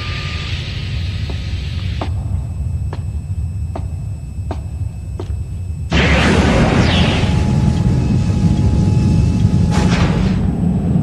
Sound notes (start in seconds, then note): 1.0 foot Steps